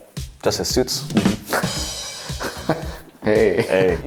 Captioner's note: both laugh